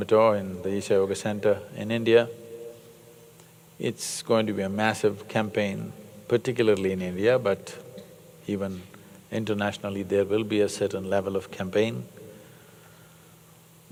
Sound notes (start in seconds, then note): none